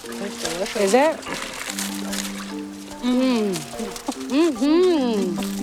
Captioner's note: foil crinkling